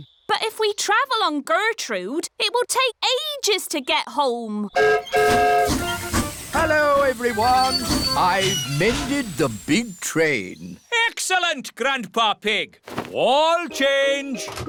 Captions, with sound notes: But if we travel on Gertrude, -it will take ages to get home. -(WHISTLE BLOWS) Hello, everyone! I've mended the big train. Excellent, Grandpa Pig! All change.